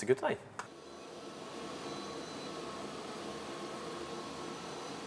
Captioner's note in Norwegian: Laserkutteren lager en summende lyd